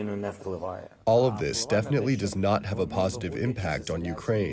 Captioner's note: through translator